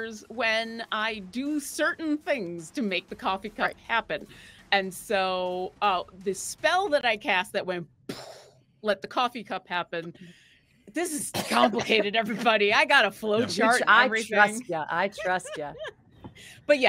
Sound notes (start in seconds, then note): 8.0 mimics explosion